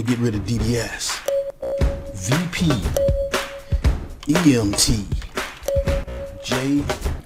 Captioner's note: electronic bings